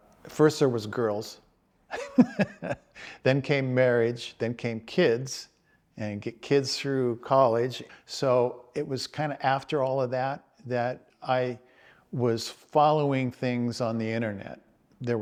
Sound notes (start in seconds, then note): 1.9 chuckles